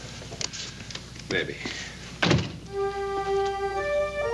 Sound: door thudding; worrisome music

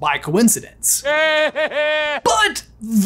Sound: Voldemort laughs

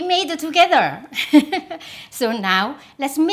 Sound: laughs

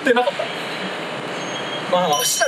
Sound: 𝔀𝓱𝓲𝓼𝓹𝓮𝓻

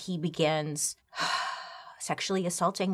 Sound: sighs

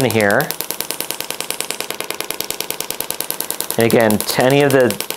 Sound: machine tapping

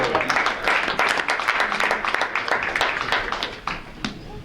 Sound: audience clapping

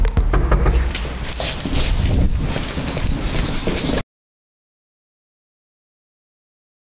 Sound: air whooshing; clothes rustling

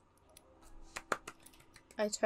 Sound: claps

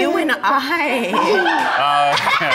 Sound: laughter

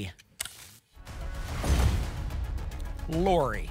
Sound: whoosh; thump

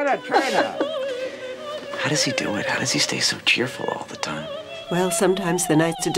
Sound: chuckles

